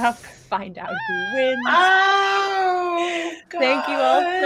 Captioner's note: characters bawl loudly